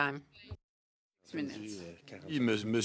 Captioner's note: speaking French